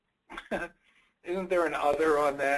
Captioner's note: chuckling